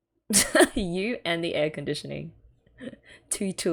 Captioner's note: laughs